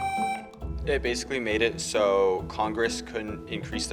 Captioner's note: tone sounds